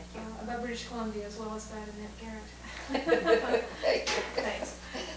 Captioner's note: laughter